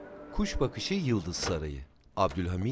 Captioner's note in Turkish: Kapı açılma sesi